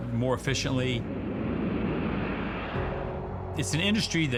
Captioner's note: aeroplane whooshing